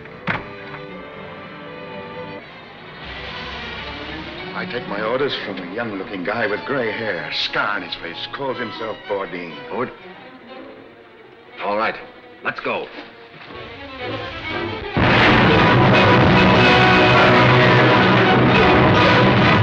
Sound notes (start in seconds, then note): 0.2 car doors slam; 2.8 fuse sizzles; 14.8 explosion booms; 16.2 dramatic music